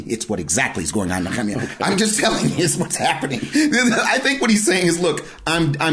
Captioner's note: laughing